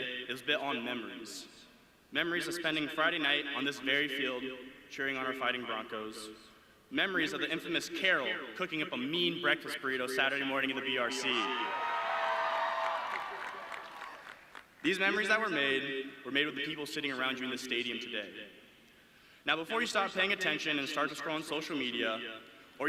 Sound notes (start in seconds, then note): 11.2 audience cheering